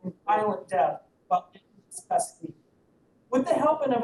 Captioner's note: audio cuts